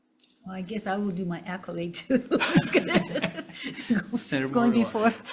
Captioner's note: laughs